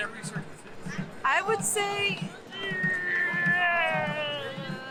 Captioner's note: grunts